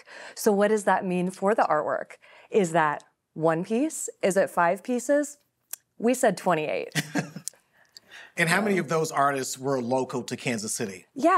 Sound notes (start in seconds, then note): 6.9 laughing